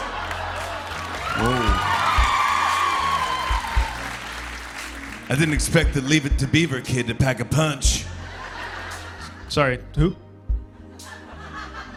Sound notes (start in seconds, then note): 0.0 light laughter; 0.0 cheers and applause; 8.3 light laughter